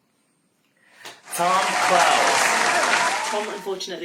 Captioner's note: applause